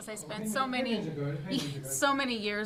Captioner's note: speaking faintly